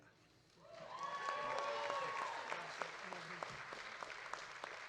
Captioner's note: audience cheering